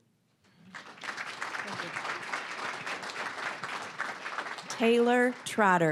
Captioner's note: applause